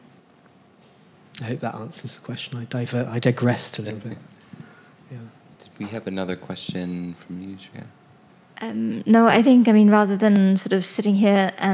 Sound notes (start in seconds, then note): 7.4 speaking softly